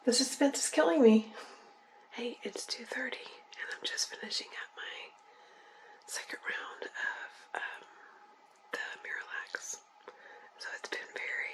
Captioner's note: whispering